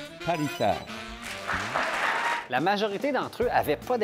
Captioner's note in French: applaudissements